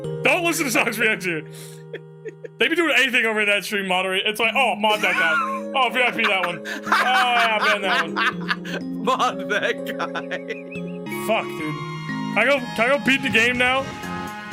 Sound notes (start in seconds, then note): 8.3 laughs